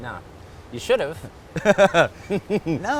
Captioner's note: laughs